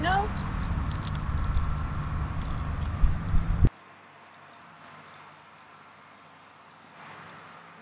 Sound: duct tape sounds

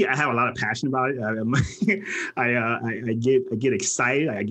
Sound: laughs

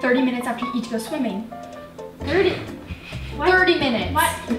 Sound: giggles

